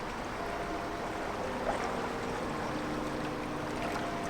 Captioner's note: water rushing